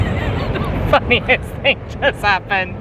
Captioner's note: laughing